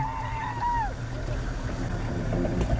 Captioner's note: cheering